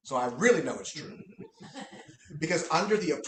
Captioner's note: laughter